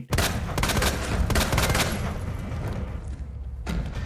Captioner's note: gunshots booming